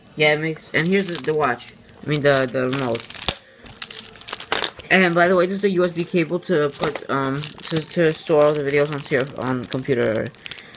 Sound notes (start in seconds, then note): 0.0 beeping noise; 3.7 plastic crinkle